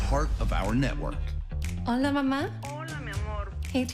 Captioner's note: non-english speech